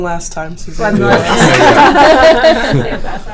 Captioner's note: all laughing